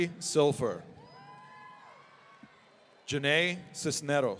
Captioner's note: audience cheering